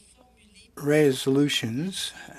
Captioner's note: speaking in French